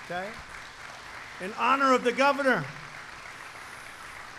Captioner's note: applause